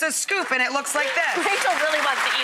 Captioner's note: clapping